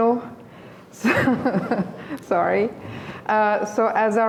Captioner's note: laughing